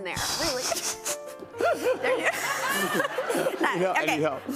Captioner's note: laughter